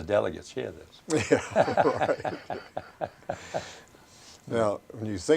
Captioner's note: both laugh